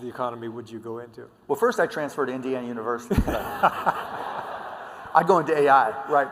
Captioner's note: laughter